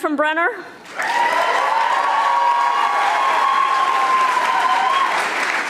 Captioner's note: audience applauding